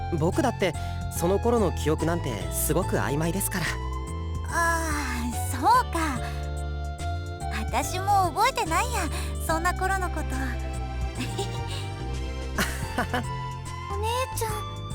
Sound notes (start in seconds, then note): 11.2 sheepish chuckle; 12.6 understanding chuckle